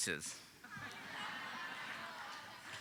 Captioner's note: audience laughing